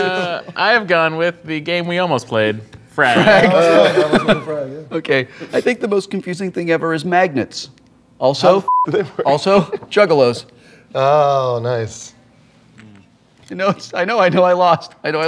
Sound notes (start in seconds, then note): 3.1 laughter